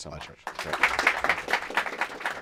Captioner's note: applause